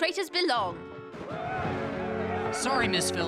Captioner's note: men yelling